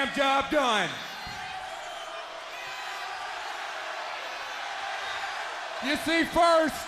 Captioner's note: crowd cheering